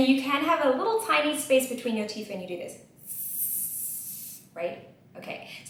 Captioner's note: ss sound